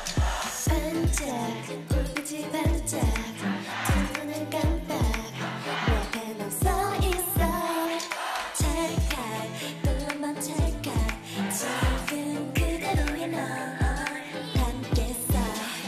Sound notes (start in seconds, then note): 10.0 click!